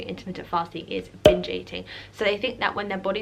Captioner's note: pop